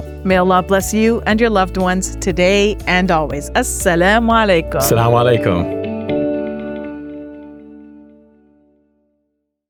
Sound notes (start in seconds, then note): 3.6 speaks in Arabic; 5.7 upbeat music